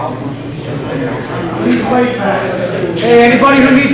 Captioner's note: overlapping chatter